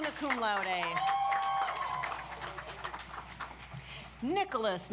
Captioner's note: audience applauds